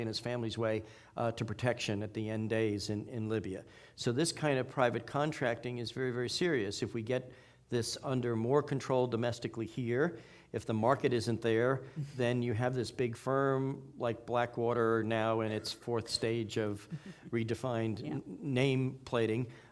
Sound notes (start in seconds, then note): none